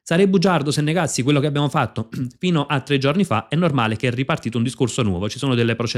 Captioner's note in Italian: schiarire la voce